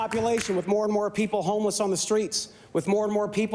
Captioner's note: applause